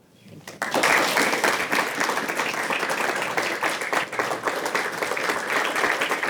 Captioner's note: audience applauds